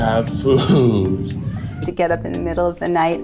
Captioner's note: Alfred meowing